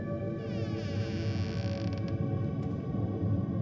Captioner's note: suspenseful music continues; door creaks